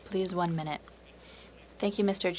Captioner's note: speaking French